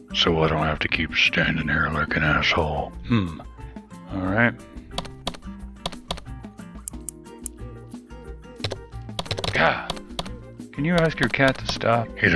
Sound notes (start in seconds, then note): 5.0 cat tapping on keyboard